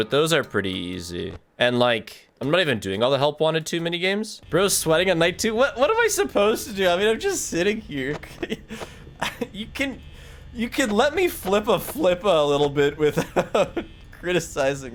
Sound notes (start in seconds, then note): 7.9 laughs